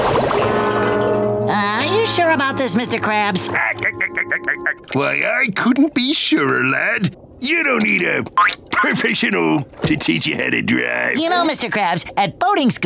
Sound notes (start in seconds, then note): 3.4 laughing